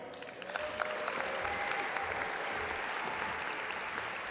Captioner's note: audience applaud